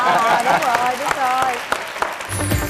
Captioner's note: clapping